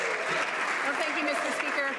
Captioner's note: some Applause